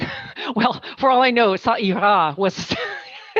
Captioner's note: speaking french